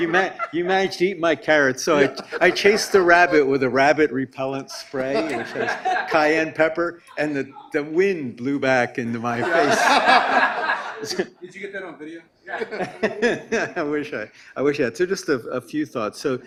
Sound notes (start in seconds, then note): 9.4 everyone laughs; 12.5 laughs